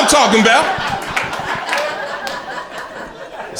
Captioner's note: crowd laughter